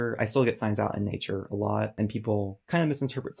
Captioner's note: none